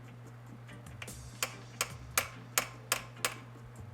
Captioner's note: tapping